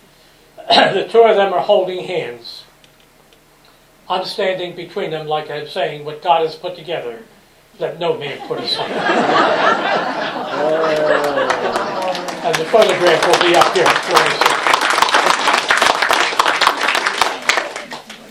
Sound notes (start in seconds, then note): 8.4 laughter; 14.2 applause